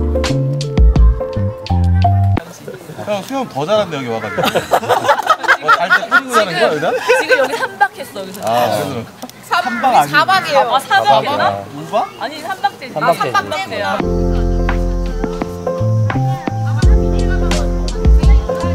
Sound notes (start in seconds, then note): 4.3 haha, more laughter